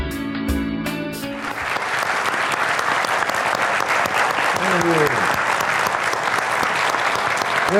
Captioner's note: applause